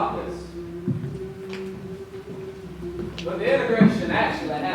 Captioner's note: students humming "We Shall Overcome"